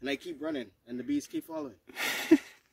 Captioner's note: laughing